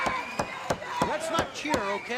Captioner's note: crowd cheering